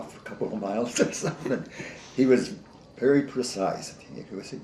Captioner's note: chuckles